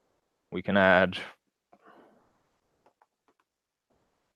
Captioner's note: mouse clicking